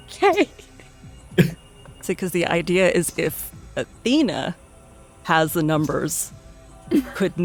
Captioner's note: chuckling